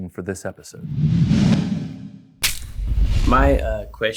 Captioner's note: air whooshing